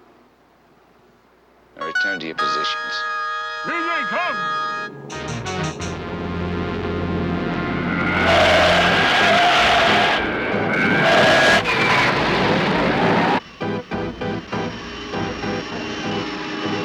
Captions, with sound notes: Now return to your positions. (tense electronic music) (zooming) (dramatic music)